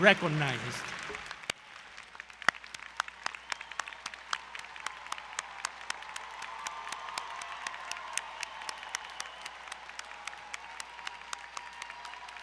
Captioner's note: applause & Cheering